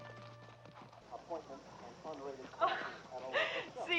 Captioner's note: muffled speaking over loudspeaker